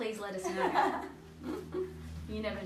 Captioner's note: group laughs